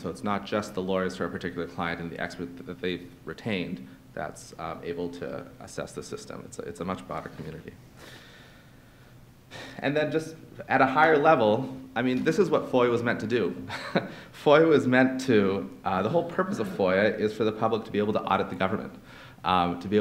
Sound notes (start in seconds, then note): 13.7 laughs